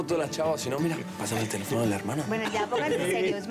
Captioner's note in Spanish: Risas